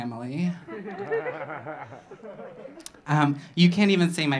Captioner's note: audience laughing